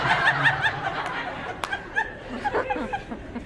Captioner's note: laughs; laughs, inaudible